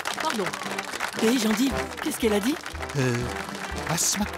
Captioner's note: laughs; applause